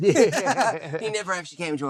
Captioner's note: laughing